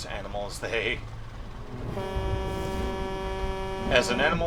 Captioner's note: long honk